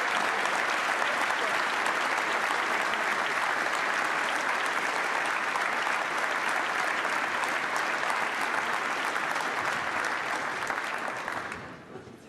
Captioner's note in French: applaudissements